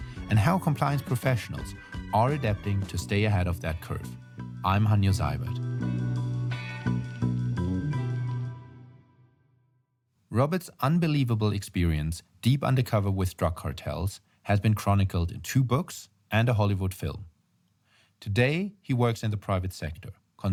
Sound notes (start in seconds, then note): 6.1 mellow music; 8.8 music stops